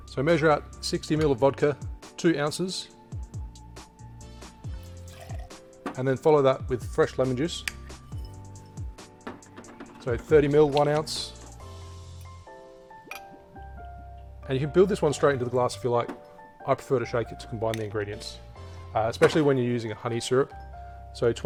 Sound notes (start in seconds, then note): 4.8 liquid sloshing; 9.0 bottle clattering; 13.0 liquid dripping